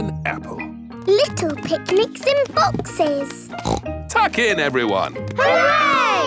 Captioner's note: snorts